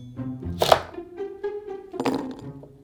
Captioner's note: knife chopping